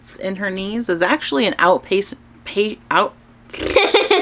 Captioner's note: laughs